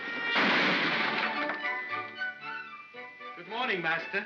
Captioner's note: loud bang; whimsical music